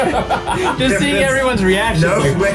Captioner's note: gasp